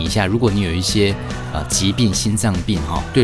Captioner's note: respiratory